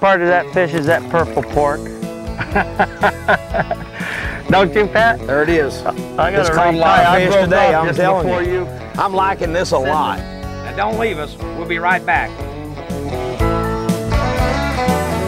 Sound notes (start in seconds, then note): 2.3 laughter